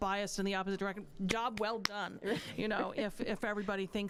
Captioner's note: clapping